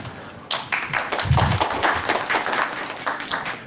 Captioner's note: applause